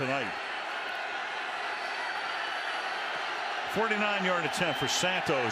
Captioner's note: crowd clamoring